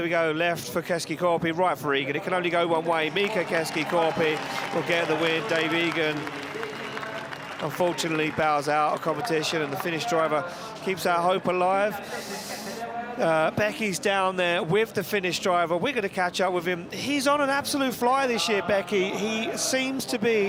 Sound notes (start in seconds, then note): 6.5 applause